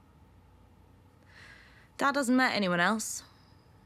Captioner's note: she inhales